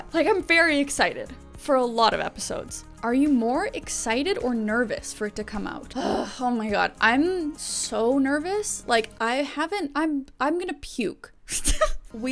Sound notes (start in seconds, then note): 6.0 groans; 11.2 laughs